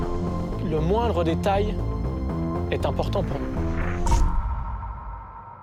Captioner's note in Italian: musica coinvolgente; parla in francese